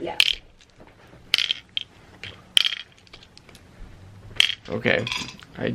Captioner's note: pills clattering